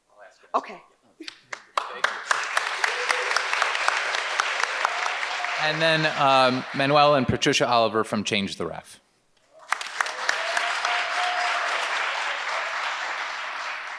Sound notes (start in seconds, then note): 1.3 audience applauding; 9.6 audience applauds and cheers